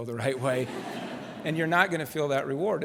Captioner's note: laughter